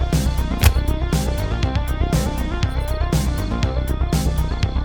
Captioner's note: blood splatting